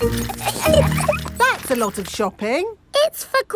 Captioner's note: laughing